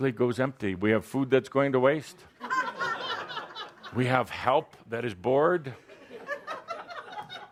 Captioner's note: laughter